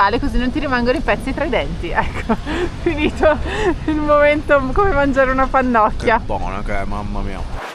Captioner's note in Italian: risate